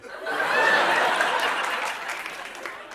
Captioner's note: laughter